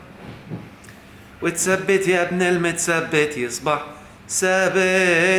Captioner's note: chanting!